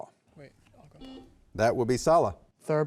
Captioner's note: buzzer buzzing